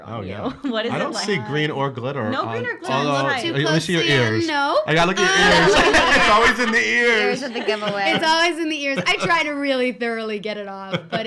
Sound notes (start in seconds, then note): 5.0 laughing